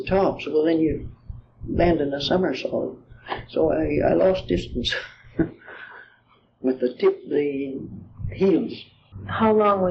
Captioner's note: laughs